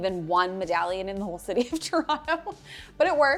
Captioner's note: laughs